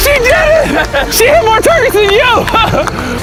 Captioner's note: laughs